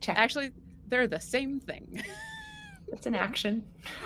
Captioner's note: laughs